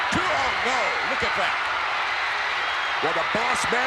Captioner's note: audience cheering